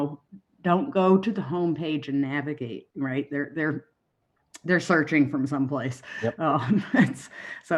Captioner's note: giggles